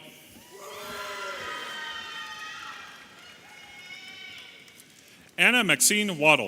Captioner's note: audience applauding and cheering